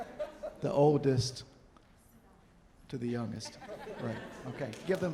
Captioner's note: audience chuckling